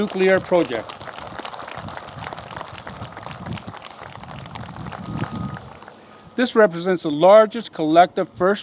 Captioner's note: applause